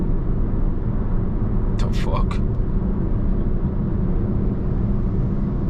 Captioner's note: car engine roaring